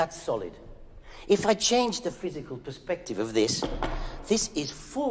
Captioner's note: knocking